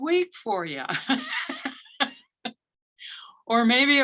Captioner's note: laughs